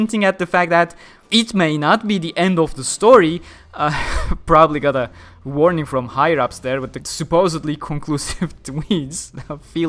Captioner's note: chuckle